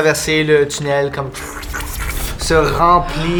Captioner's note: suction sound